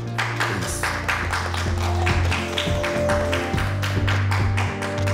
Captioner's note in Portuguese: Palmas ao fundo